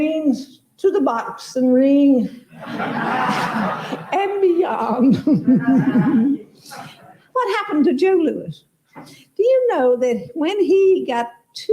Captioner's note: laugter